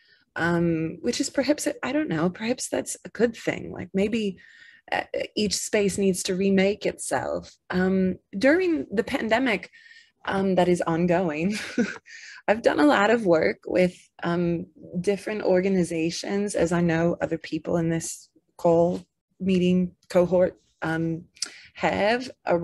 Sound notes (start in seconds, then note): 11.8 chuckles